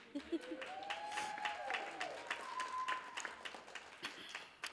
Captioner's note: cheers, applause